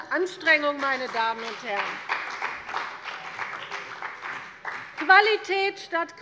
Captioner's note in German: Beifall bei der CDU und dem BÜNDNIS 90/DIE GRÜNEN